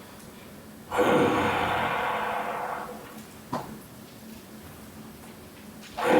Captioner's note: breathes heavily